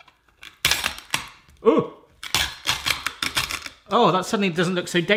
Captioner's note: crunching